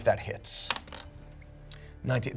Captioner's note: dice rolling